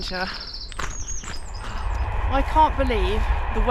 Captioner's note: train